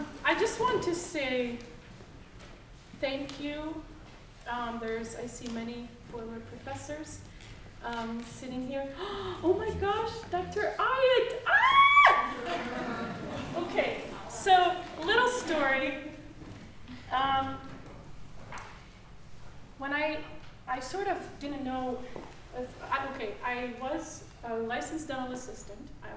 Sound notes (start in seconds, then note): 9.0 gasping; 11.4 screaming gleefully; 12.3 audience laughing